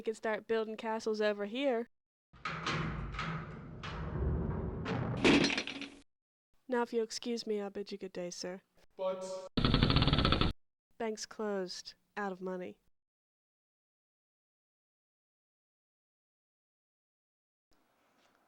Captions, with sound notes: just so we could start building castles over here. (vault bellows) Now, if you'll excuse me, I'll bid you good day, sir. - But... (wheel clicks) - Bank's closed. Out of money.